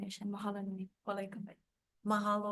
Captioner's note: speaks Hawaiian